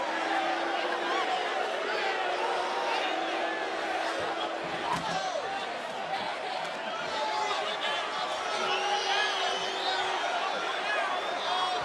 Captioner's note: crowd boos